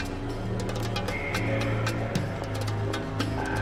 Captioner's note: man announcing over P.A